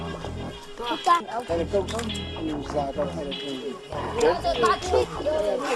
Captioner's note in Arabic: بالثرثرة بلغة أجنبية